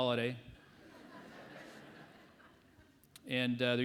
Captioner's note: audience laughs